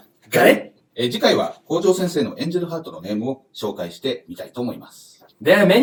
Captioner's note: speaking Japanese